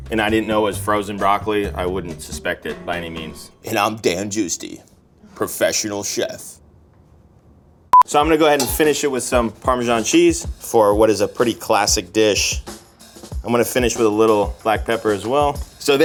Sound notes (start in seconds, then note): 7.9 note beeps